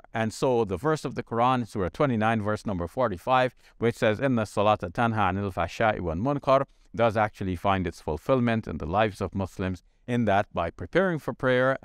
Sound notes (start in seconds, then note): 4.2 speaks in foreign language